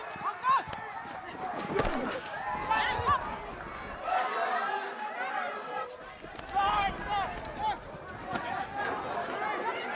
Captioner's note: shouting in afrikaans